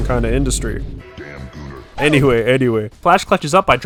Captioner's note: cough